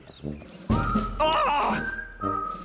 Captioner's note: gasps